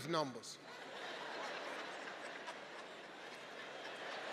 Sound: audience laughing

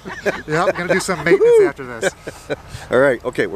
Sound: laughing

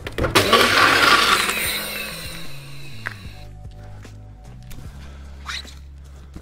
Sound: blender whirring

